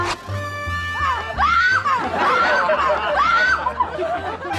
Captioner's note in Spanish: Grita